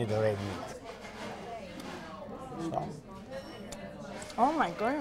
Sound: crowd noises in background

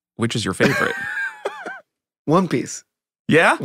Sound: Tony laughing

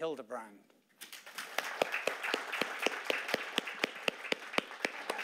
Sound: audience applauding

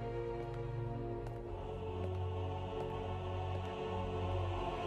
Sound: shoes clicking

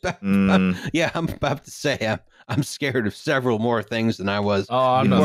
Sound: laughing

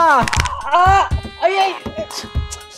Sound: shouting

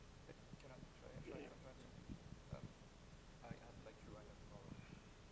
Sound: speaking faintly

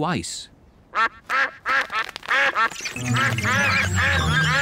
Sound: all quack

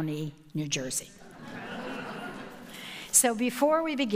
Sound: audience laughing

